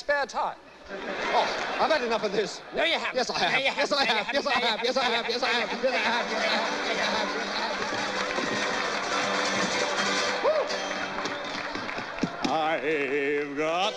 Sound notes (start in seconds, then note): 3.8 both continue arguing; 5.5 guitar strumming